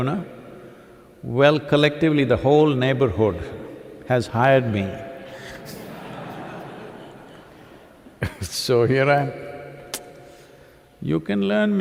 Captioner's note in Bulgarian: смях